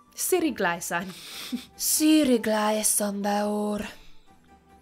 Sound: laughs

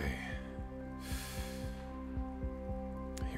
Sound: deep breath

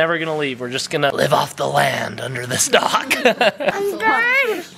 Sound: laughs

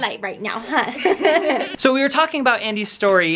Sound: laughs

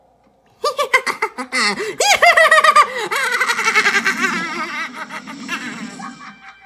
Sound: Skull Kid laughing

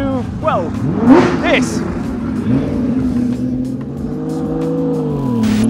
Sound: car engine roaring

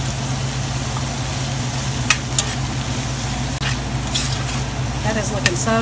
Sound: sizzling

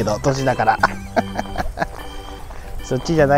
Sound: laughs

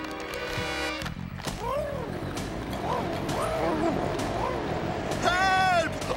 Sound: engines revving

